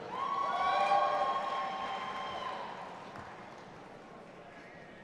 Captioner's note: audience applauding and cheering